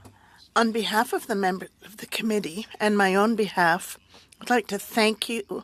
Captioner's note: speaking French